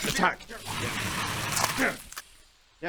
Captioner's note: scratchy attacky noises